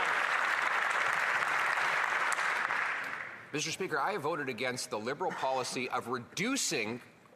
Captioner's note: applause